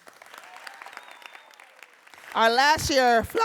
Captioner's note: audience cheering and applauding